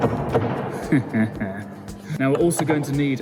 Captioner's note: chuckles